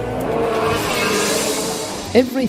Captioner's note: race car engine roaring